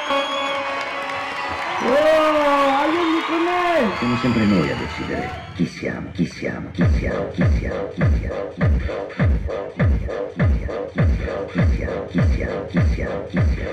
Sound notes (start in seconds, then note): 5.4 cheering; 10.7 heavy beat